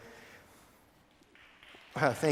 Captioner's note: applause